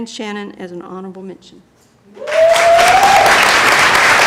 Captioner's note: applause